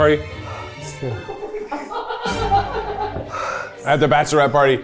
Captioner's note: laughing